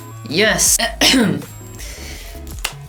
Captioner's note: caugh in italian